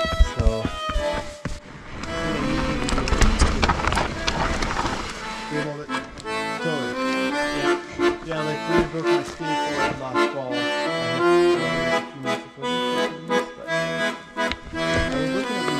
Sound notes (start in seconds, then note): 0.2 accordion music; 6.3 talking in the background